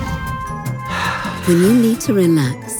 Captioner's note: speakers exhaling